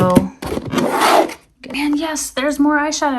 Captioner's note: item shuffling